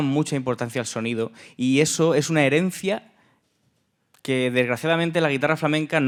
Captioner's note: speaking in Spanish